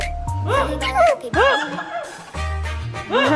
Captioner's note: can't hold it in +2